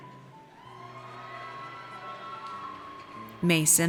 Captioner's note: audience cheers